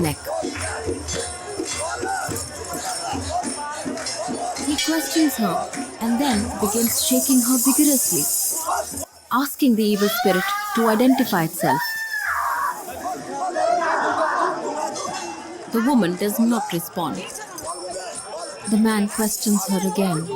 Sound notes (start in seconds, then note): 0.3 bells jingling; 0.3 traditional hyms; 11.9 screaming intensely